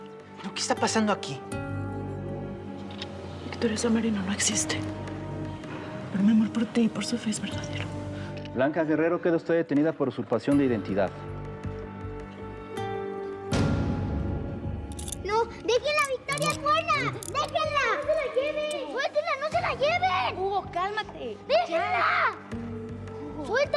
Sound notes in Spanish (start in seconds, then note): 15.8 sonido al esposarla